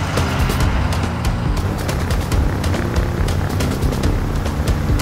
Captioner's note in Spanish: Ruido de la avioneta